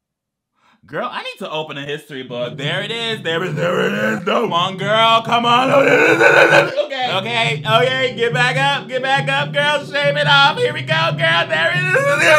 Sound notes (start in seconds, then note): 5.7 speaks gibberish